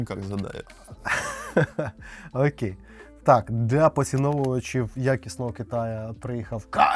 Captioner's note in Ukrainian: сміх